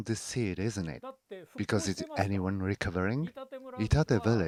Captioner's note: speaking Foreign Language